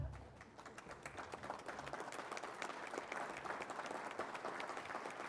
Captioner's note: applause